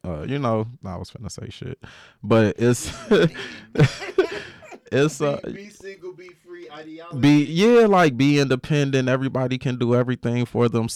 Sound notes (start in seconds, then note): 5.5 laughs